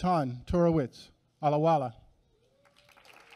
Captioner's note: applause